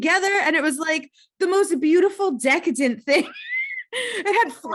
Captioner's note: laughs